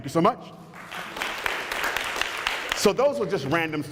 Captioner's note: applause